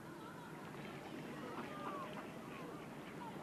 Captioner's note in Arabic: صوت الأطفال يلعبون